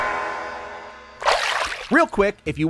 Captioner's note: splashing tone